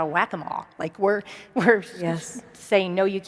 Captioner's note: laughs